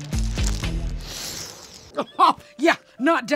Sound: inhales

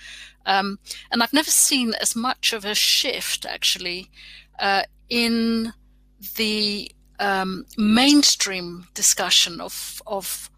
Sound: erm

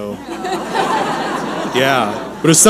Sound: audience laughing

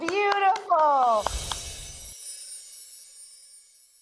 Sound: twinkling

